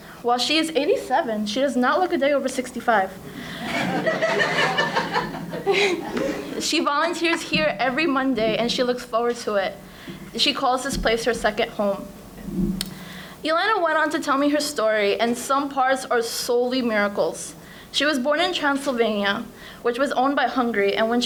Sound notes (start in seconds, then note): 3.3 audience laughing